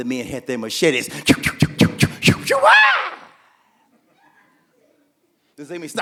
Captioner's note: machetes slashing